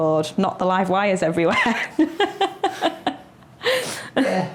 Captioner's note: laughs